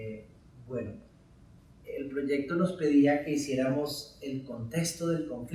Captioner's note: speaking in Spanish